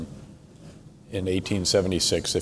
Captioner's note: none